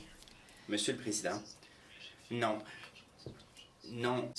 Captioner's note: speaking french